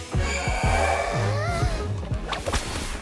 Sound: gasps

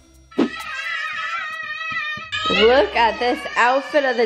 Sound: soft music; screaming

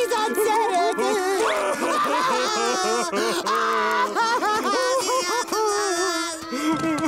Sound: crying

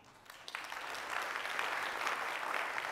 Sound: applause

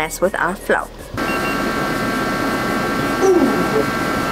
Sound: infrared thermometer beeping

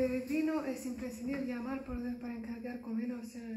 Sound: speaking Spanish

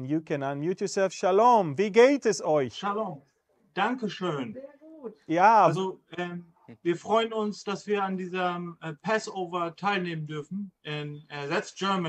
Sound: German conversation

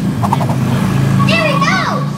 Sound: engine revving; Romeo whooshing

